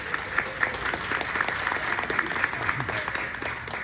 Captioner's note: applause